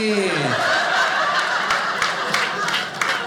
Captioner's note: audience laughing